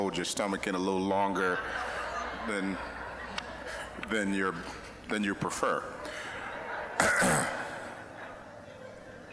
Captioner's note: audience laughing